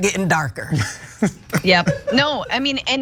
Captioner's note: laugh